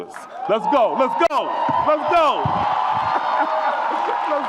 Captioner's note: audience applauds and cheers